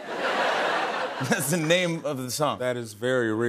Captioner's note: laughter